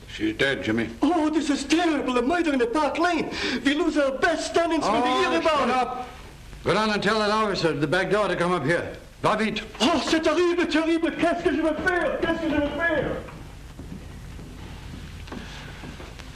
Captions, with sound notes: - She's dead, Jimmy. - Oh, this is terrible. A murder in the Park Lane, we lose our best standings- - Oh, shut up! Go down and tell that officer at the back door to come up here. (both speaking in foreign language)